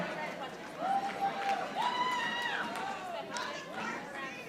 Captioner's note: audience applauding